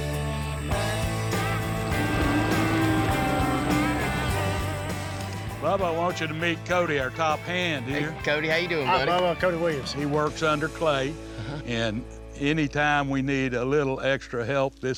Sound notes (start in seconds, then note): 1.4 mooing